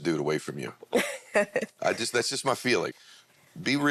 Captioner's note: laughs